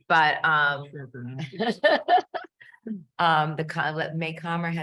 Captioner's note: panelist laughing